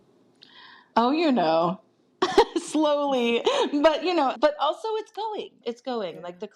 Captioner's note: laugher